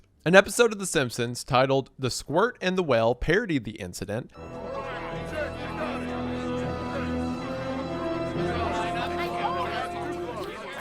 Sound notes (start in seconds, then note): 4.4 overlapping chatter; 6.4 dramatic music plays